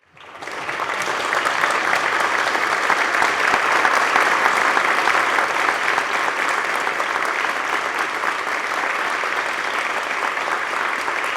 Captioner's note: applause